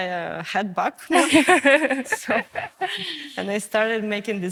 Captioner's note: woman laughs